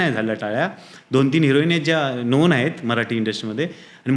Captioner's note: rambling